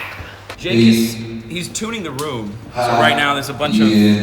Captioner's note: man vocalizing